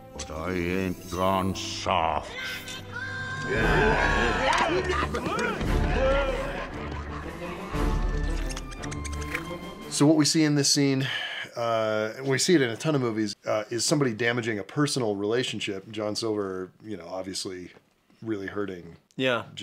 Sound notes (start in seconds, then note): 8.7 chitters